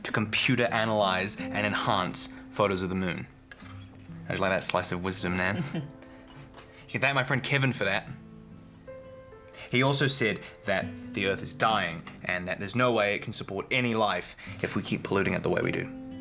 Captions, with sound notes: to computer analyze and enhance photos of the Moon. How do you like that slice of wisdom Nan? (Nan chuckling) You can thank my friend Kevin for that. He also said that the earth is dying and that there's no way it can support any life if we keep polluting it the way we do.